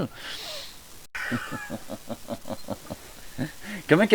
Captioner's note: laugh